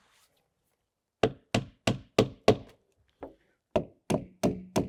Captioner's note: hammer knocking